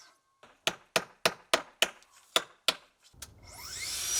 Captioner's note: hammer banging